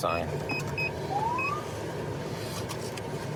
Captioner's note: siren chirps